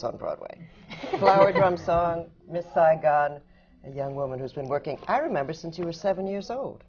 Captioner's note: laughs